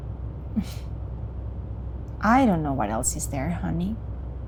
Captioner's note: sighs